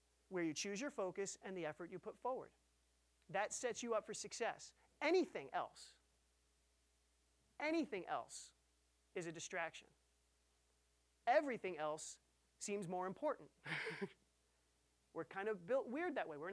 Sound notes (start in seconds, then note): 13.6 chuckling